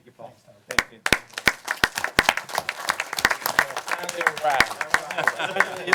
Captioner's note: applause